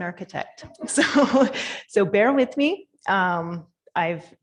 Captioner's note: laughing